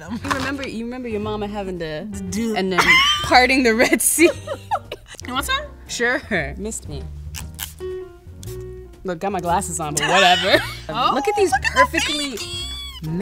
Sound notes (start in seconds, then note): 2.6 laughs